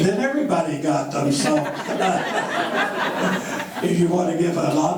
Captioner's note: members laughing